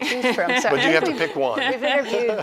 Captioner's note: laughing